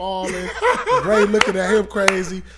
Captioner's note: laughing